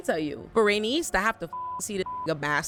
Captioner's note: beep